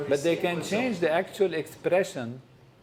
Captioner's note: none